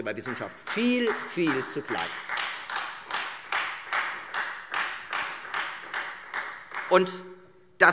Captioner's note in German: Beifall Freie Demokraten